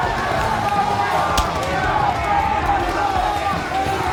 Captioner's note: A loud crack from Steve Pain’s hit across Jesse’s face